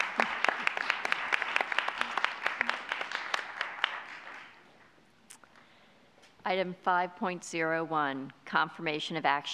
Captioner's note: applause